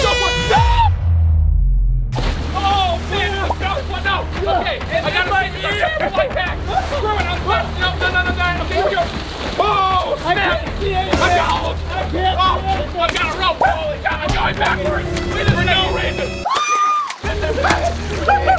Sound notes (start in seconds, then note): 0.0 air horn; 0.1 splash; 11.4 splashing; 14.8 screams